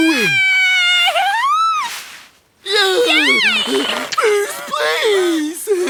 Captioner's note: kids cheering